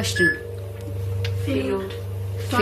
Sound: loud beeping

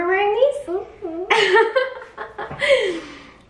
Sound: laughs

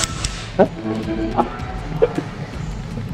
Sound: laughs

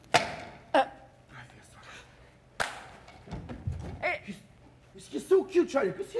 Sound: drunk man softly gasps; drunk man softly whispers

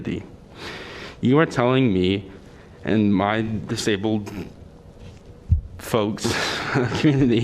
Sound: laughter

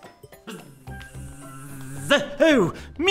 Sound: arthur buzzing

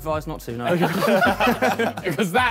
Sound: all laughing

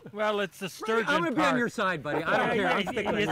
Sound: laughter

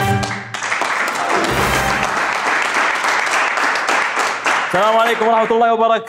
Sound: clapping

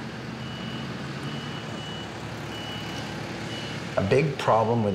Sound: beeping

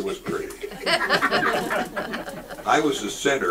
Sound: audience laughs

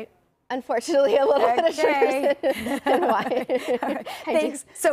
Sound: laughing

